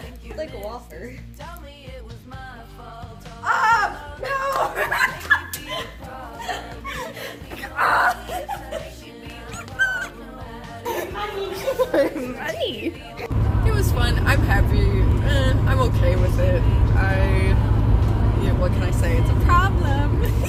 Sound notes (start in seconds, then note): 4.3 laughter; 8.3 more laughter